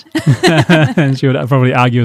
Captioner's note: both laughing